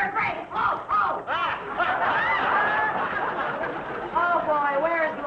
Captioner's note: audience laughing